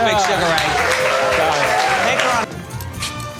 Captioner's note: gallery applauds